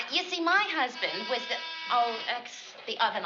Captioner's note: buzz